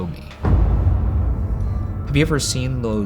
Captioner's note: booming